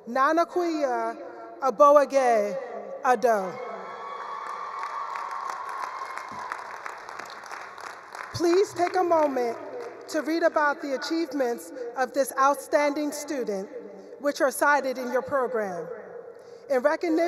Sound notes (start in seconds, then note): 3.8 attendees cheering; 4.2 attendees applauding